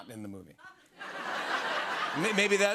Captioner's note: laughter